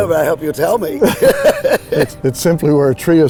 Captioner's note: laughing